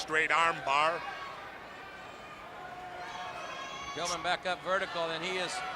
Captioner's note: crowd chatter